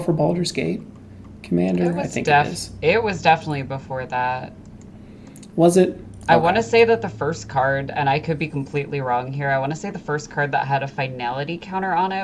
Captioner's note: clicking